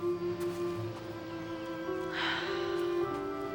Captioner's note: sighs